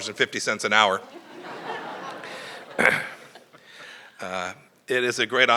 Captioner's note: laughter